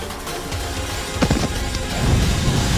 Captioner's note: falls